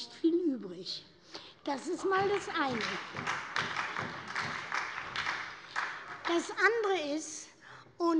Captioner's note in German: Heiterkeit und Beifall bei der SPD und der LINKEN